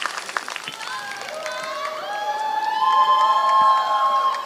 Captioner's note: applause